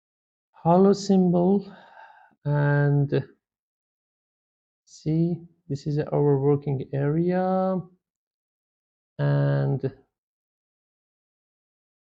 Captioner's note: sighs and gasps